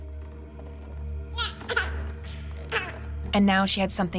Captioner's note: baby cooing